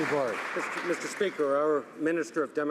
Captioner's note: some Applause